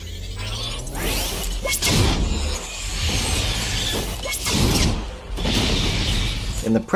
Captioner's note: plasma caster whirring